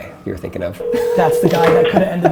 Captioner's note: phone ringing